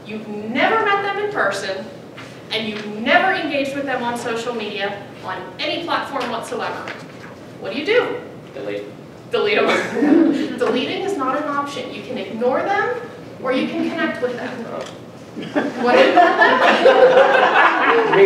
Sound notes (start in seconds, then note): 9.7 laughing; 15.4 audience laughing